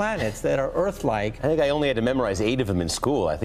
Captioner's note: voiceover